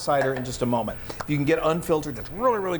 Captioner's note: claps hands